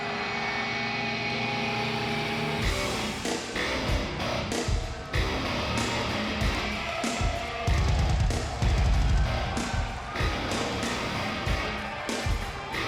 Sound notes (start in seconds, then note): 3.3 energetic rock music continues; 9.2 fans cheering